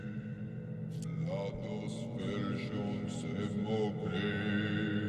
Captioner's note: chanting in foreign language